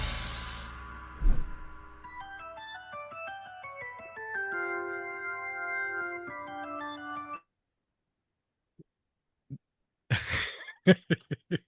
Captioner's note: laughter